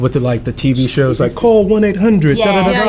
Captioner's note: vocalizes